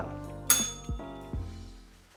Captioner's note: bell rings